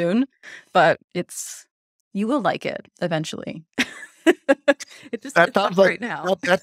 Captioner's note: chuckles